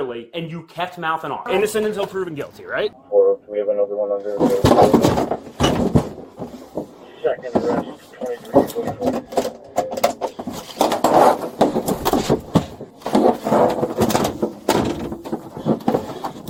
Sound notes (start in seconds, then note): 3.1 radio chatter; 6.8 radio chatter